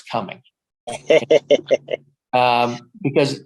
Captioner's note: everybody laughing